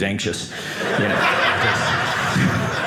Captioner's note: audience laughing